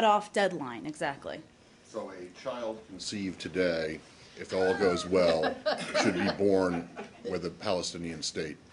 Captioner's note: laughter